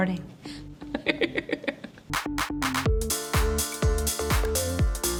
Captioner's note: laughing